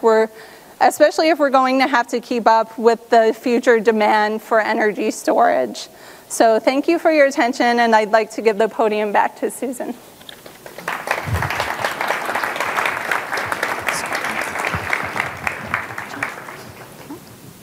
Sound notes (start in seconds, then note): 10.4 audience applauding; 13.9 chattering